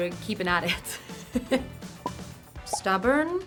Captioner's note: laughing